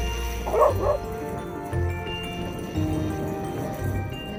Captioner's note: calm music; dogs barking; calm music